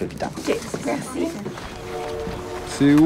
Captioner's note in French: sifflet de train au loin